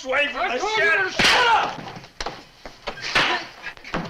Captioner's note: hand slaps